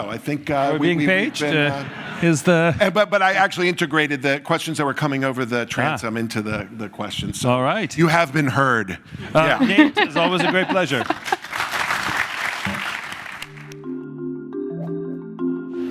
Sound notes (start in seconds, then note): 9.4 laugh; 10.1 applause